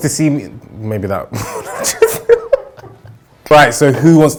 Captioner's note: laughing